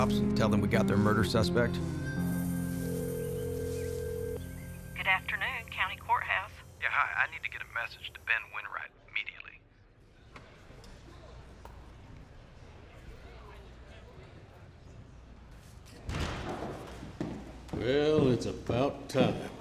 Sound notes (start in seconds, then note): 3.0 phone dials; 10.0 people chattering softly; 16.1 doors open, footsteps